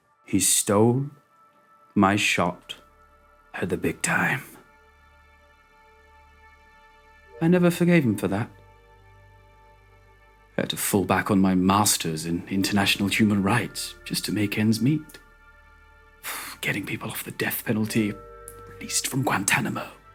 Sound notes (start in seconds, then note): none